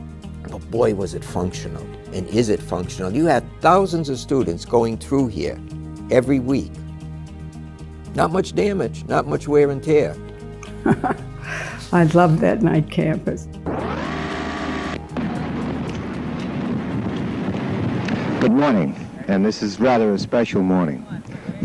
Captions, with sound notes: but, boy, was it functional and is it functional. You have thousands of students going through here every week. Not much damage, not much wear and tear. - I loved that Knight Campus. (television static) - Good morning. And this is a rather special morning.